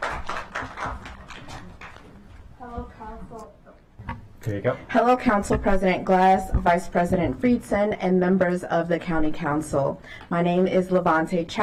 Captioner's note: applause